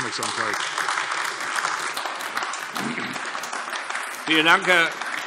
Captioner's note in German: Beifall AfD